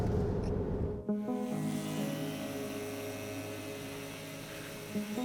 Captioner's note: tattoo gun buzzing